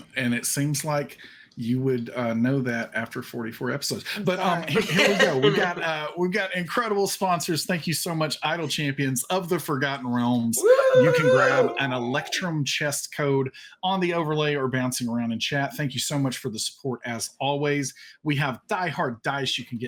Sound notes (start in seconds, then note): 4.2 all laugh; 10.5 all cheer